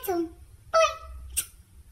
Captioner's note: smooch